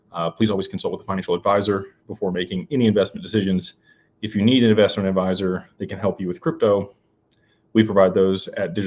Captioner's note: none